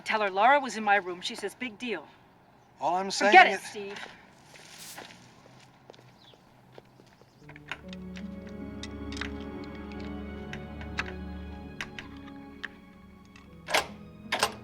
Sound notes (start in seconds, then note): 7.4 soft dramatic music; 10.8 lock clicking